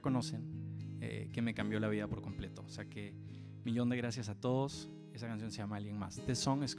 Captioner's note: continues to speak Spanish